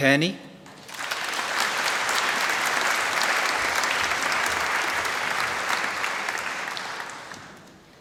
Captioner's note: applause